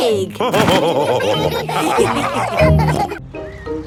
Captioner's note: all laughing